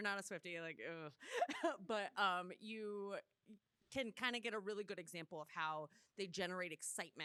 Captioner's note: laughs